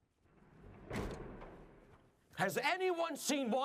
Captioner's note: door slams shut